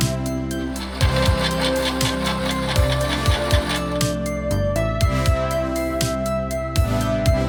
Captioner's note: lo-fi music; saw grinding